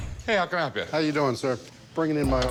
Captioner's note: voiceover